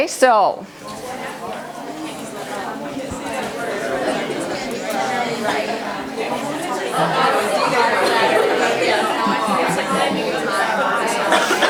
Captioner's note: chatting